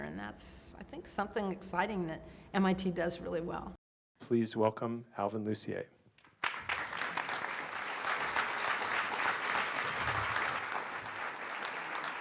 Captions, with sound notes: And that's, I think, something exciting that MIT does really well. Please welcome Alvin Lucier. [APPLAUSE]